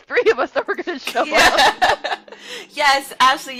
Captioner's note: laughter